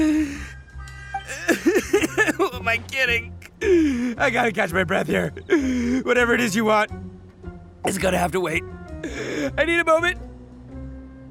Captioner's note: coughing